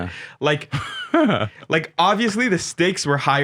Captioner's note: laughing